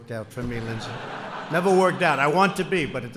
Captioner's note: laughter